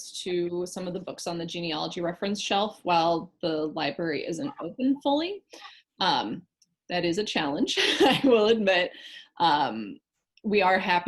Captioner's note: laugh